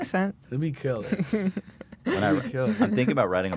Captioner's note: laughs